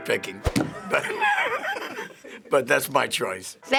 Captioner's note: wheezy laughter